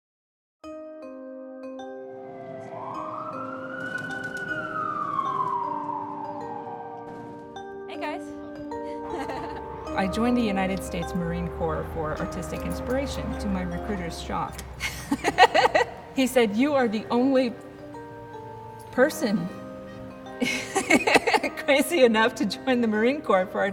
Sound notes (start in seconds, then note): 8.8 chuckles; 14.8 laughs; 20.4 laughs